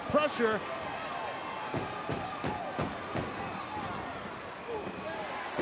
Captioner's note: crowd murmuring